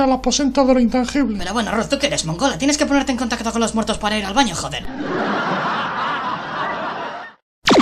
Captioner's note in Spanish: risas